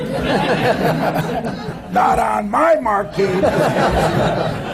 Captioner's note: laughter